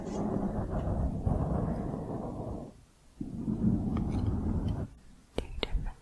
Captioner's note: mic scratching